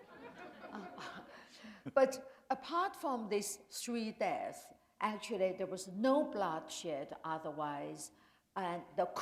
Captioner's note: laughter